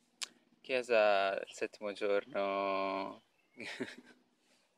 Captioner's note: laughs